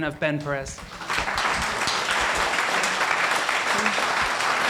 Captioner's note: applauding